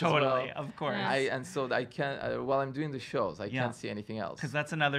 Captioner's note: stutters